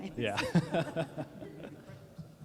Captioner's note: laughter